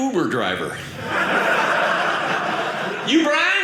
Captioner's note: audience laughing